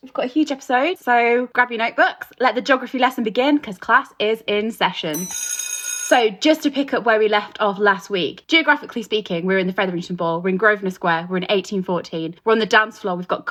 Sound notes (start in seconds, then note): 5.1 bell ringing